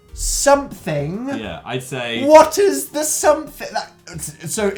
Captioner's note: stammer